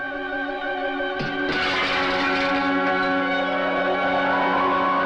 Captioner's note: glass clattering